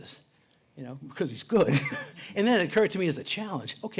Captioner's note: laughs